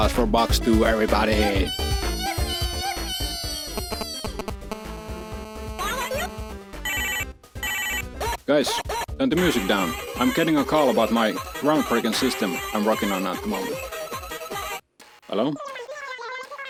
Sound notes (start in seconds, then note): 6.8 phone ringing